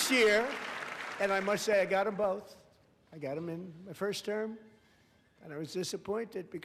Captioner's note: applause